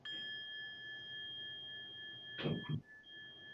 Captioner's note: bell chiming